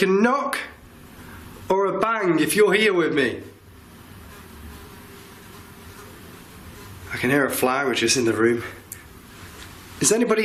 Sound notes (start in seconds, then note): 3.8 flies buzzing